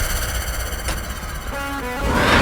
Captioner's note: door opens